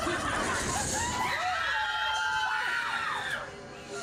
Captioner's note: guests scream